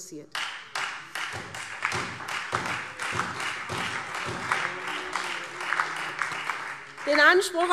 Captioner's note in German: Beifall SPD und Freie Demokraten